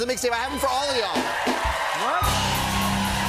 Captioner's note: cheers and applause